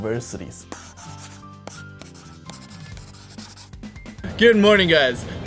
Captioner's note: marker pen scribbling